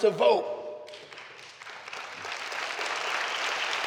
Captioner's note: clapping